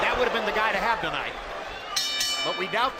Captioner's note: bell dinging